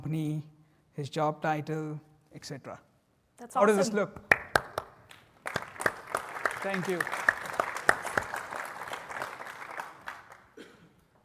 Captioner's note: applause